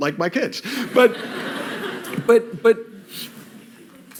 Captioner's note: laughter